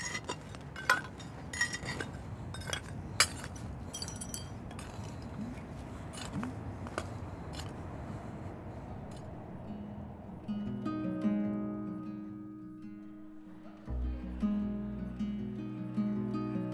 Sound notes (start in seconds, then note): 3.9 glass shatters; 9.6 mellow guitar